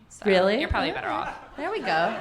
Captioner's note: audience laughing